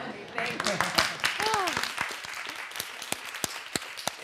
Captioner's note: audience laughs; audience clapping